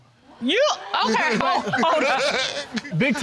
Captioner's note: laughs